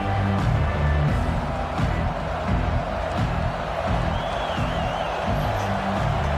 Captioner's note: crowd Noises